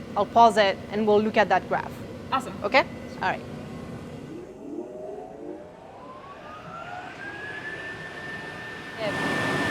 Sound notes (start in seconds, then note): 3.8 machine whirring